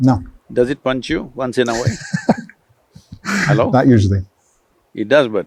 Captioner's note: laughs